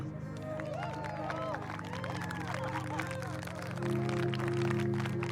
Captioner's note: audience cheering and clapping